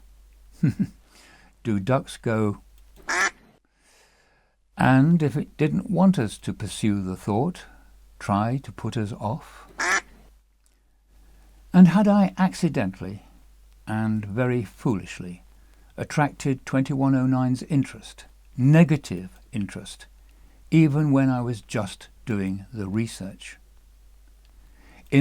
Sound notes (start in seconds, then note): 3.0 quack; 9.8 quack